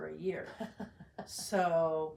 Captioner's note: laughs